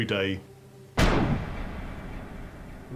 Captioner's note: gunshot